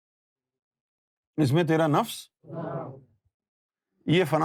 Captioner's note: audience repeats